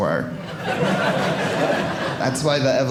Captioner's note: audience laughing